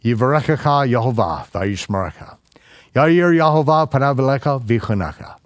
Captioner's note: speaking in foreign language